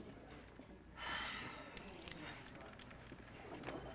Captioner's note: sighs